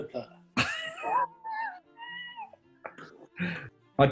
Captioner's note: sniggering